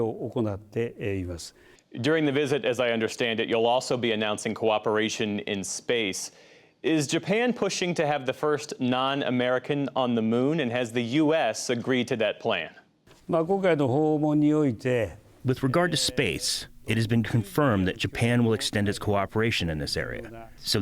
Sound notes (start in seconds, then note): 13.6 through translator